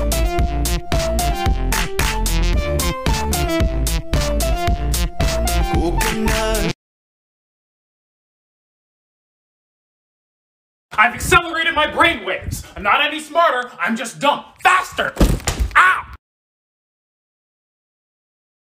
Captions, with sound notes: I'VE ACCELERATED MY BRAINWAVES I'M NOT ANY SMARTER, I'M JUST DUMB FASTER [thunk] OW